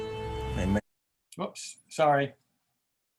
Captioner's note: exclaims